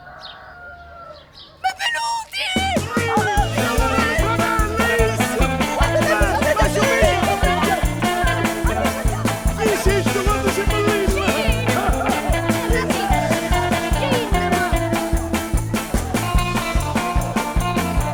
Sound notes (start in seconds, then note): 3.1 upbeat music playing; 5.5 villagers cheering